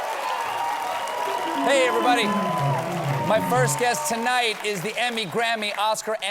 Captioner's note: cheering